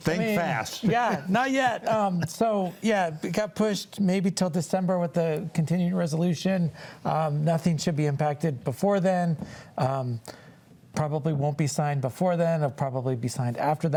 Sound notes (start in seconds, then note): 0.1 panelists laughing; 0.2 laughs